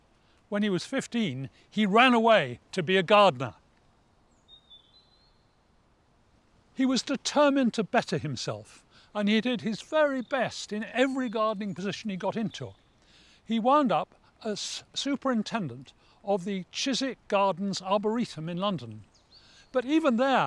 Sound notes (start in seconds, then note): 4.2 birds heard chirping in the background